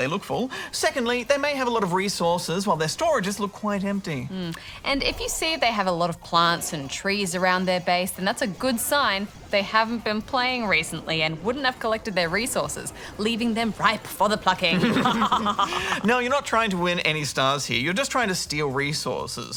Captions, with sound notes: Firstly, they look full. Secondly, they may have a lot of resources, while their storages look quite empty. If you see they have a lot of plants and trees around their base, that's a good sign they haven't been playing recently and wouldn't have collected their resources, leaving them ripe for the plucking. (Laughs) You're not trying to win any stars here. You're just trying to steal resources,